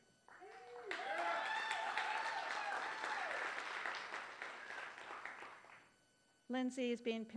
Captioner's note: applause